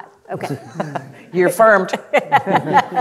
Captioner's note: laughing